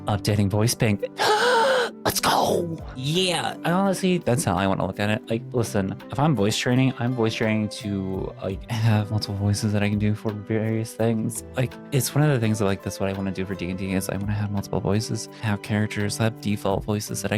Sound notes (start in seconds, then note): 1.1 gasps